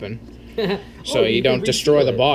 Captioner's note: chuckles